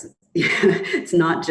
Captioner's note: chuckles